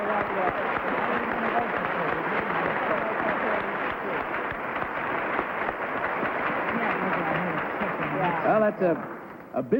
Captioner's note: applause